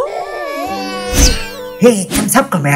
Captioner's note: crying